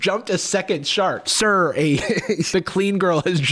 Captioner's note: laughs